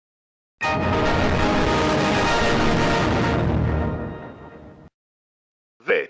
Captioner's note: Windows XP Startup Sound.EXE